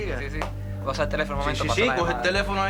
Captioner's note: speaking spansh